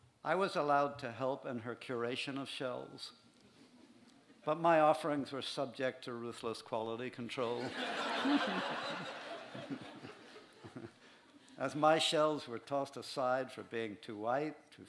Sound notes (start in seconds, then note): 7.5 laughter